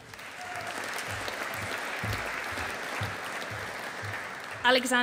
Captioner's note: audience applauding